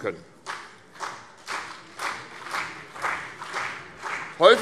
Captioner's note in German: Vereinzelter Beifall CDU und BÜNDNIS 90/DIE GRÜNEN